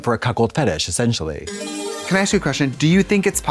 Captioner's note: bright chime